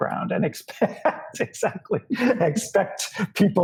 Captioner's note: laughs